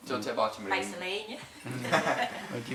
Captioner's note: others Laugh